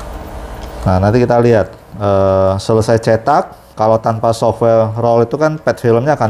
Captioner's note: printer machine noise